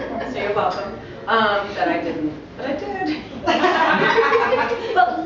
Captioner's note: laughter